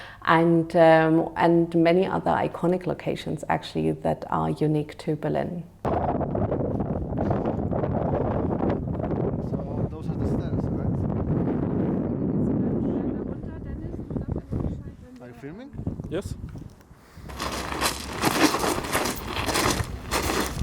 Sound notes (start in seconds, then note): 5.9 wind rushing; 17.1 footsteps crunching